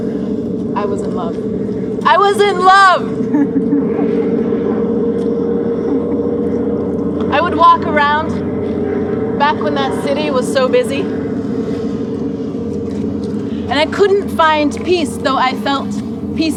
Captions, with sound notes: I was in love. I was in love. (people laughing) I would walk around back when that city was so busy and I couldn't find peace though I felt peaceful,